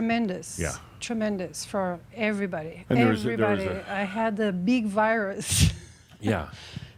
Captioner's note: she chuckles